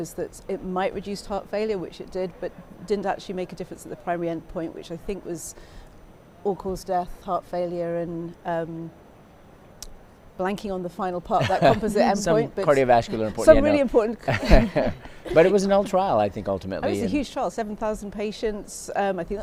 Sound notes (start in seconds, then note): 11.4 chuckles; 14.3 both chuckling